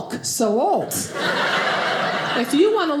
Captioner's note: audience laughing